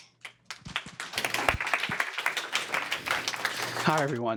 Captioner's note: applause